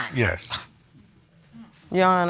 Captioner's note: scoffs